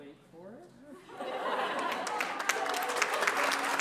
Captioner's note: laughter; applause